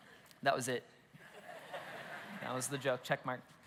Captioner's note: congregation laughs